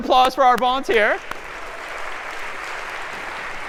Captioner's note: applause